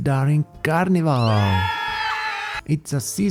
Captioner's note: loud crowd